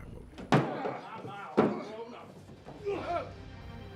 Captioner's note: grunting